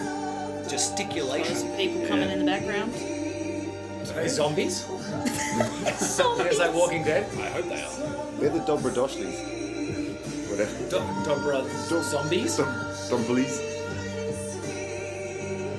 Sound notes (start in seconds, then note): 5.0 laughs